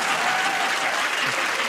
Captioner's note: laughter and cheering